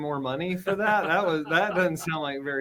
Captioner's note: laughs